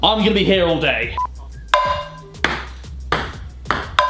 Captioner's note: ball bounces